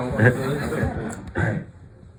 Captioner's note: laughter